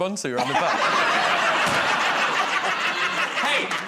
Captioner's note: laughter